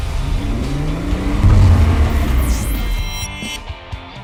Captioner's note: engine revving